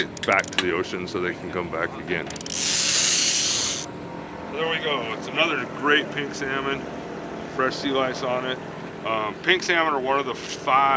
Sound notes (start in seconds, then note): 2.3 reel spinning